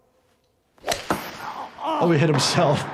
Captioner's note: ball thuds